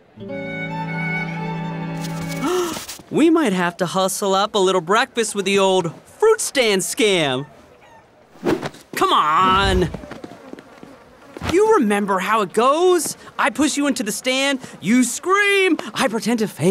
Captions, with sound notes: [gasping] We might have to hustle up a little breakfast with the old fruit stand scam. Come on. You remember how it goes. I push you into the stand, you scream, I pretend to faint.